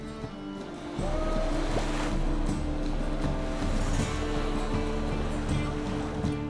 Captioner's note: water sloshing, dockworkers yelling